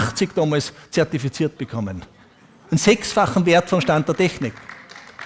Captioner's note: applause